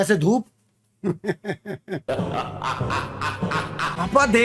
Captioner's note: sinister laughter